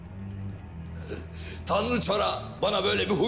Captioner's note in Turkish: Gülerek